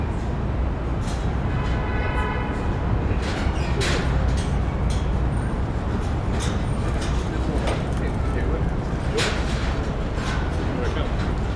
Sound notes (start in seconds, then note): 1.6 horn honking